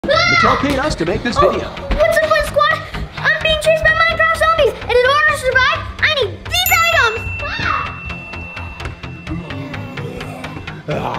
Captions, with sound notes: Mattel paid us to make this video. What's up Fun Squad, I'm being chased by Minecraft zombies! And in order to survive, I need these items! [both growling]